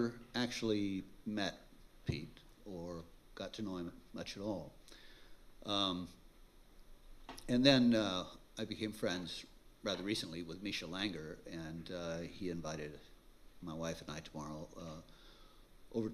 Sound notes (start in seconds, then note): none